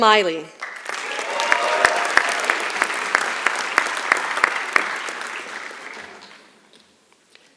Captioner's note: applause